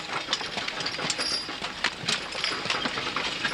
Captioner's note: wagon rattling away